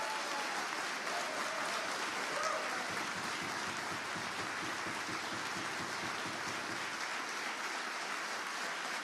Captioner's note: applause